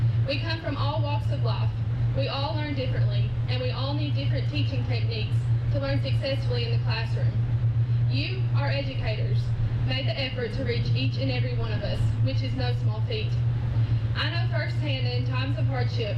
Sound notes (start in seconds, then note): none